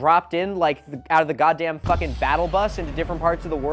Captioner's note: Fortnite battle bus sound effect